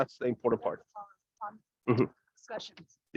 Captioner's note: audio cuts out